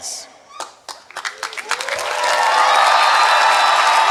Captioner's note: applause